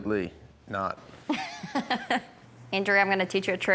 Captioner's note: laughing